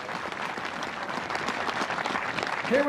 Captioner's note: cheers and applause